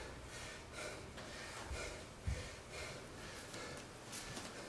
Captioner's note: heavy breathing